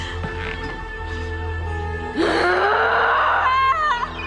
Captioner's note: growling